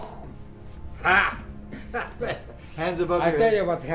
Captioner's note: laughing